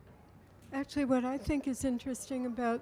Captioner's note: voiceover